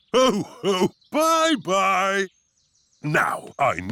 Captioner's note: laughs